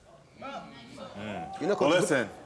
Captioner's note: audience gasps